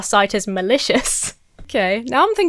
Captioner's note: chuckles